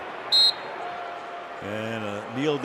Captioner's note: whistle